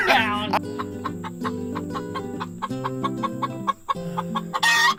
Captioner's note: chicken clucking